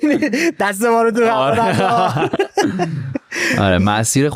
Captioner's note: laughs